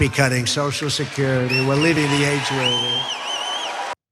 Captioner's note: applause